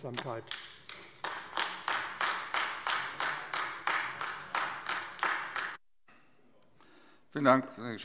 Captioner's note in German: Beifall AfD